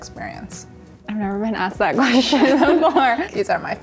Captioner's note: laughing